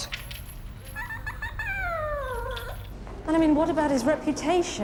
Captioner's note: dog whining